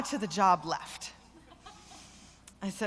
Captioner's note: laughter